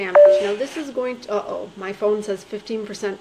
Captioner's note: alarm beeping